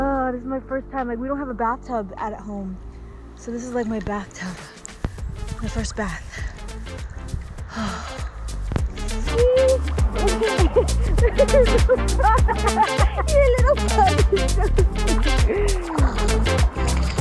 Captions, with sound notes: Oh, this is my first time- we don't have a bathtub at home, so this is like my bathtub. My first bath. (sighs) (both laugh) Your little puppy. (laughs)